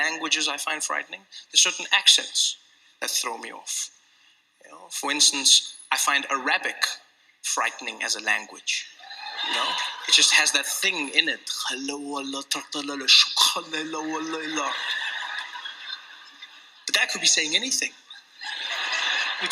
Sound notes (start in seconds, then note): 12.4 makes up Arabic words; 18.0 laughter